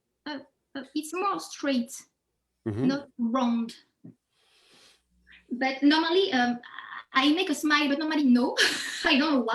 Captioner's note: laughs